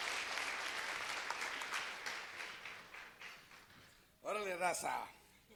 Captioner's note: applause